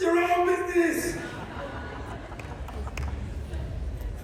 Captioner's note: laughter